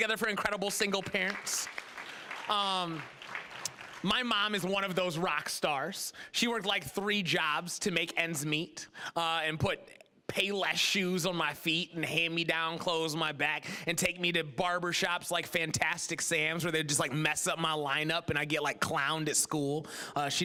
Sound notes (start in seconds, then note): 1.9 applause